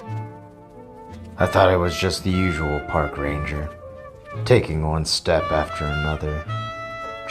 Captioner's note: voice-over